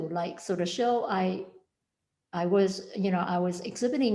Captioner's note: none